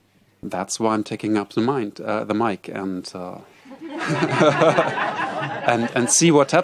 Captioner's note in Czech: smích